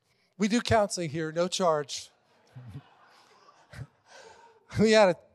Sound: congregation laughing

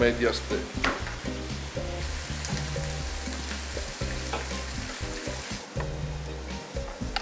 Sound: sizzling food

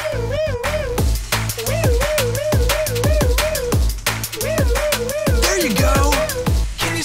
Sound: wee-ooo, wee-ooo, wee-ooo, wee-ooo, wee-ooo, wee-ooo

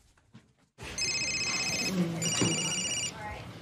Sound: mobile ringing

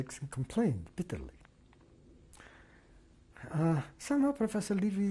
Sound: pauses for 3 seconds

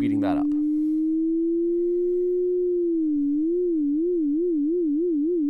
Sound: sine wave quivering

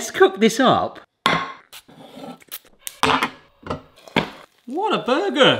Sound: pan rattling

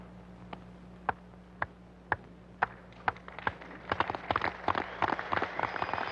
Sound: crowd and players applauding

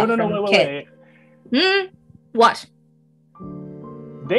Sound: sternly

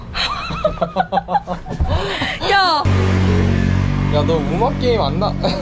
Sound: laughing

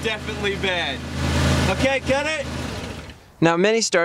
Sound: engine turns off

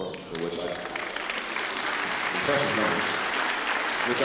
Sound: applause

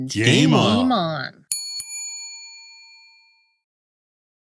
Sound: bell dings

